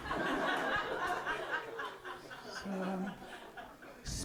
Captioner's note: audience laughing